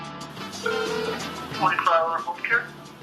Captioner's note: phone ringing